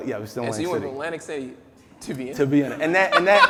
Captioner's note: laughing